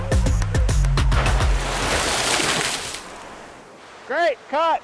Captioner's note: water pouring